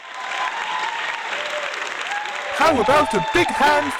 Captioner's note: applause